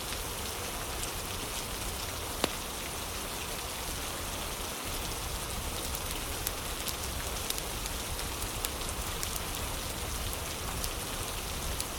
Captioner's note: fire crackling